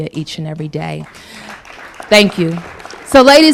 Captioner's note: applause